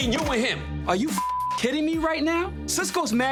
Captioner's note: beep